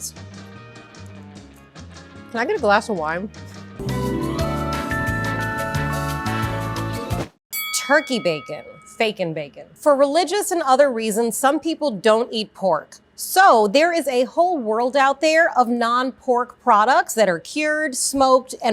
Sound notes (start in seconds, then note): 0.1 upbeat music; 3.7 bright music; 7.5 bell rings